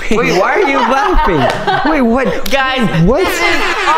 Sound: laughing

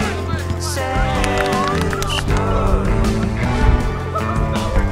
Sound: spectators clapping

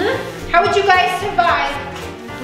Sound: none

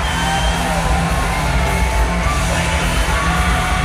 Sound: cheering

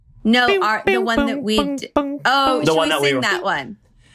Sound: john humming

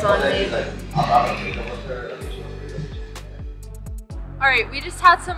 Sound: background mumbling

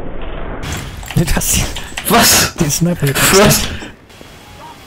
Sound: laughing

